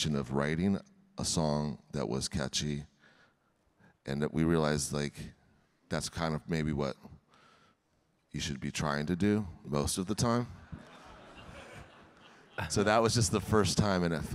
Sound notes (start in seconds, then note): 10.6 audience laughing